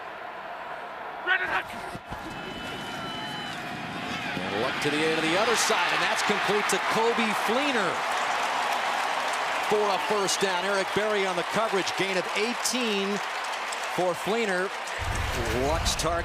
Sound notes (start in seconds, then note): 8.4 cheering